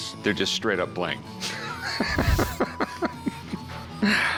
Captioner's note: cackling